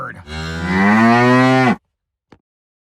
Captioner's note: cow moos